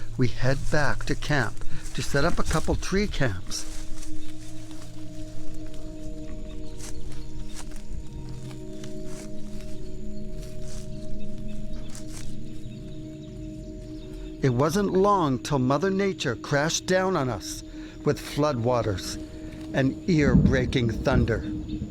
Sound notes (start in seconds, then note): 5.4 rustling leaves; 11.2 bird noise